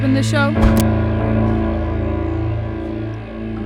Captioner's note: ax taps